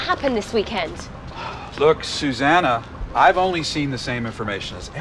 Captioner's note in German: seufzt